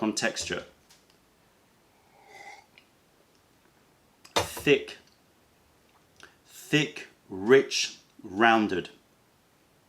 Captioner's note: sips tea